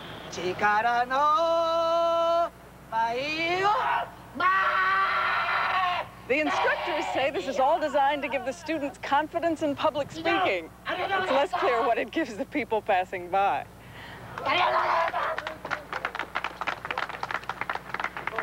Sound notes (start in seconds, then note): 14.3 people applauding